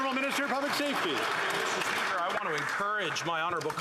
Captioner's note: applause